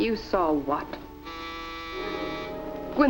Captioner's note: doorbell rings